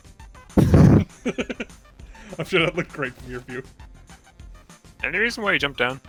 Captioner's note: laughs